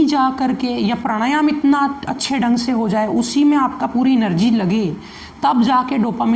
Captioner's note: breathing exercise